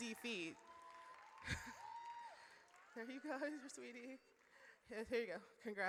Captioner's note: audience cheers